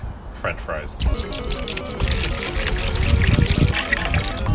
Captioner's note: vinegar splashing